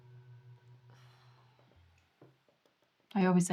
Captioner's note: Laura sighs